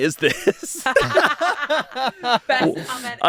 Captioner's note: everyone laughs